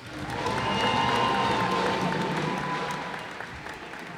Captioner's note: cheers and applause